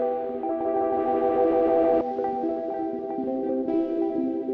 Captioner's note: none